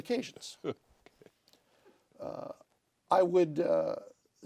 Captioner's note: laughter